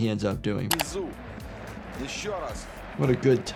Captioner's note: commentator talks in foreign language